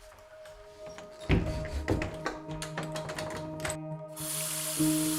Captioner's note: door creaking; door closing; water running